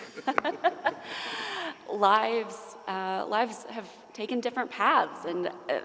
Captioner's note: both laugh